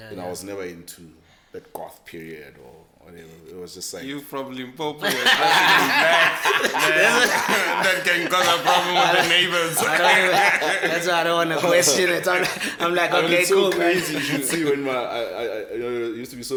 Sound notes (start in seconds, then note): 4.6 everybody laughs; 9.5 laughing